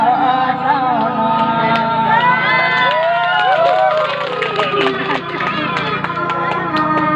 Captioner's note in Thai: ปรบมือ; ปรบมือ